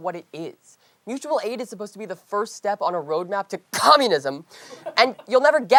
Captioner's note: coughs